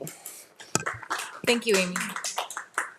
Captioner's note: audience applauding